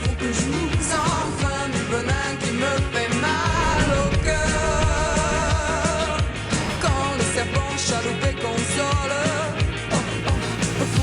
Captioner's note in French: chant